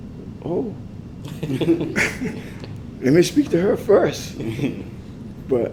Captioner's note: laugh